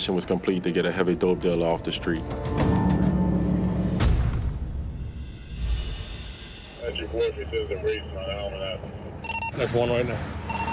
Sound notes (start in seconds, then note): 7.1 man on radio